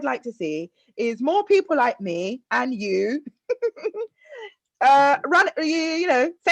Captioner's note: giggles